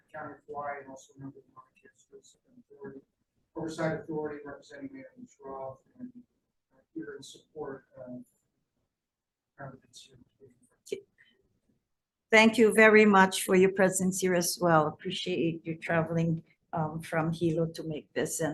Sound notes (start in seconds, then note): 2.4 faintly speaking; 9.3 faintly speaking